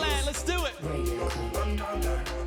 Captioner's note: cheering and Applause